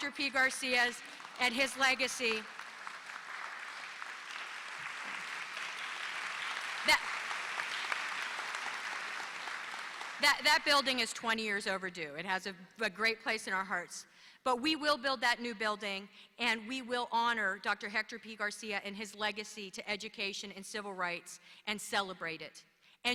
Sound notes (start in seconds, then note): 2.5 applause